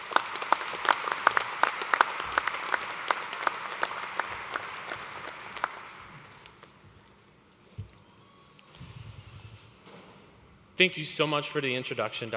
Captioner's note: applause